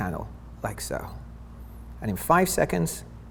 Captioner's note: meter beeps